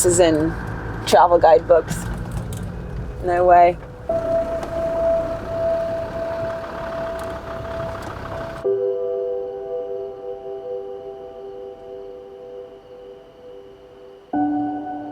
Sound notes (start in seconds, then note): 7.8 engine rumbles; 12.3 poignant music